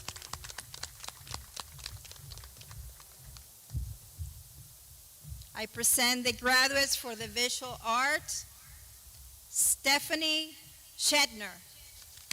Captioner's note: clapping